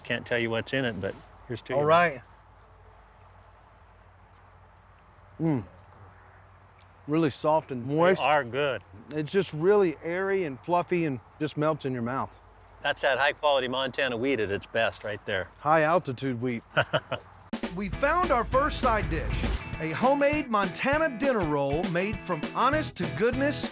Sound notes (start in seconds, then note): 16.7 laughing